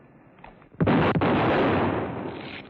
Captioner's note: gunshot